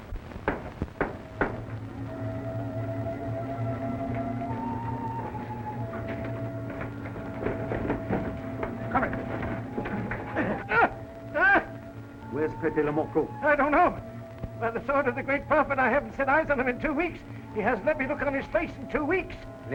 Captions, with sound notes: (knocking) (dramatic music) - I got him. (Regis groans) - Where's Pepe le Moko? - I don't know. By the sword of the Great Prophet, I haven't set eyes on him in two weeks. He hasn't let me look on his face in two weeks.